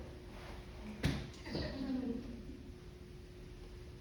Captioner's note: soft laughing